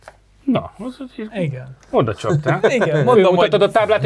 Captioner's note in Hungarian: nevetés